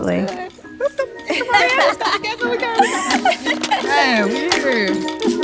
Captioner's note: all laughing and indistinct chattering